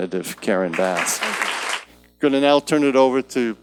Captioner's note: audience claps